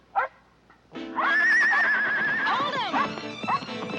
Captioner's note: dog barking; Danny whinnying; dog barking; dramatic tense music